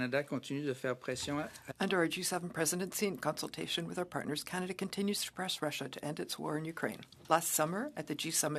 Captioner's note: speaking French